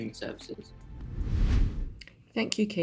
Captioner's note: air whooshing